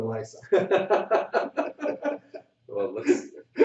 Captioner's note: laughter